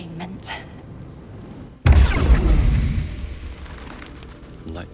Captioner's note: teleportation explosion 'poof,' ominous music continues